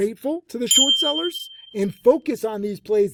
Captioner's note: notification bell ringing